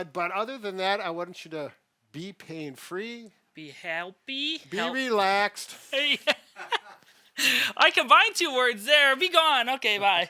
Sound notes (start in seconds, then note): 6.0 laughs